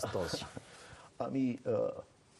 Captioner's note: laughing